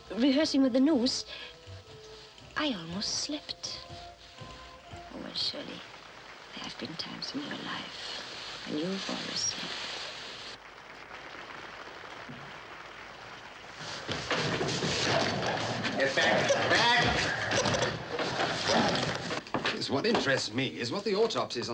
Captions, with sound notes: rehearsing with the noose, I almost slipped. Well surely, there have been times in your life when you've almost slipped. (audience applauding) (gorilla growling) - Get back, get back! - What interests me is what the autopsies